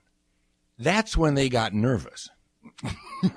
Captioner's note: laughs